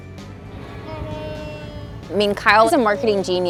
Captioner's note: person cheering